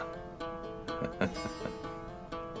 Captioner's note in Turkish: Gülme sesi